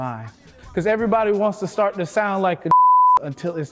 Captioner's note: beep